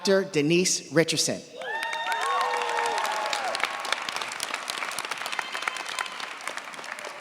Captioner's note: cheers, applause